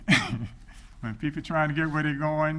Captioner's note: chuckles